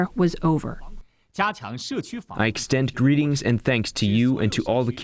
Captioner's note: through translator